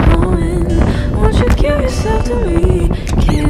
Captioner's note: the wind sounds